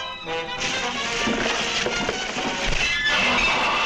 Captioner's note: dramatic music; ice cracking; metal clatters